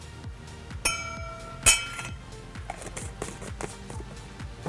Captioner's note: spoon dinging